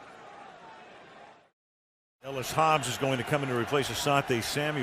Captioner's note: pa announcement